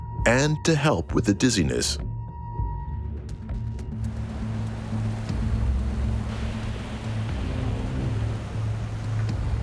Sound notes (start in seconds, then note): 4.6 ocean waves crashing